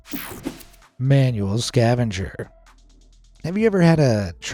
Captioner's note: screen whooshing